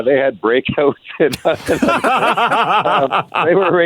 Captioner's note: laughter